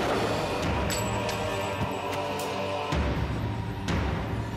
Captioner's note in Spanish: Disparos